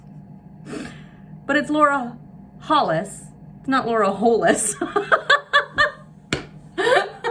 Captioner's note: laughs